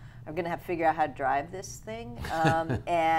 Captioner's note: laughing